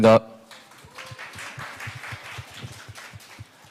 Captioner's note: claps